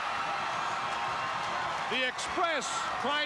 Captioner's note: audience cheering